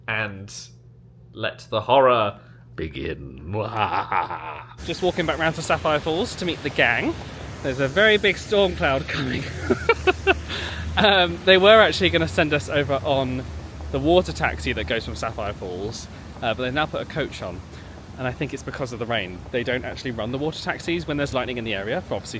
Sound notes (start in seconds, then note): 3.6 laughs wickedly; 8.5 laughs